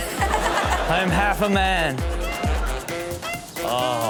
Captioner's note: crowd laughs